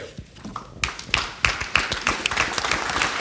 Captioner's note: applause